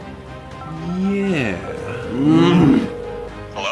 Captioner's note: dial tone ringing; male voice on the phone